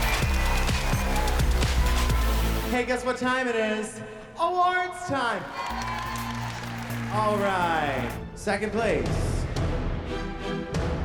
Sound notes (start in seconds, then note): 5.2 cheers and applause